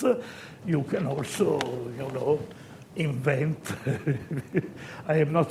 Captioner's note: chuckles